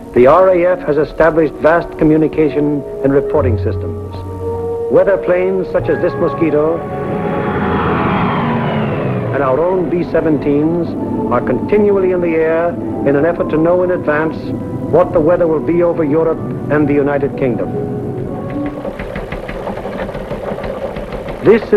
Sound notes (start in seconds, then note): 6.9 plane engine roaring; 18.5 teletype keys clicking